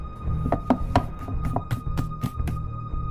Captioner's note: rummaging in the closet